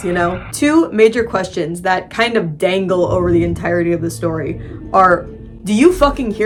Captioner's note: muffled sound of vacuuming